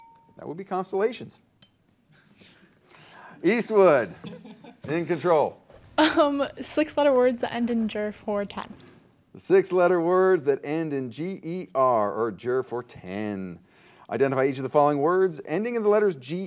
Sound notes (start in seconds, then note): 0.0 bell dings; 3.8 contestants laughing